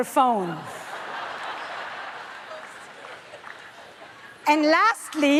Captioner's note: audience laughs